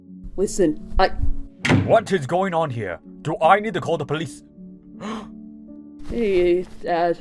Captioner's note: gasps